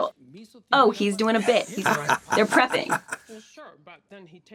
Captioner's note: laughing